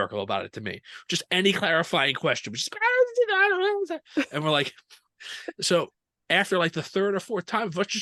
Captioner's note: high pitched noises of protest